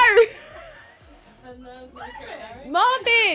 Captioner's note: laughs